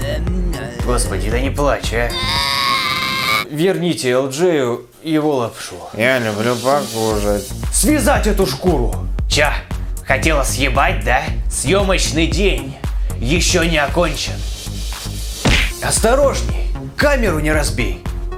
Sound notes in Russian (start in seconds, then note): 2.1 звук ребенка